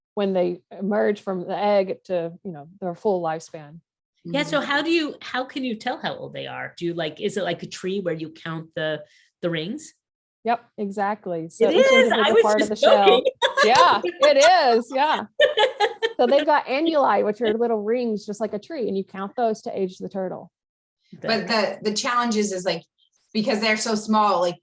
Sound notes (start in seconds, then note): 15.1 laughs happily